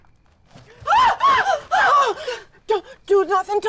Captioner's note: screaming